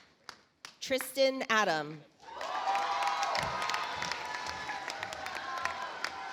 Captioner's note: audience applauds